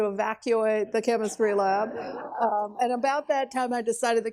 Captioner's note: laughs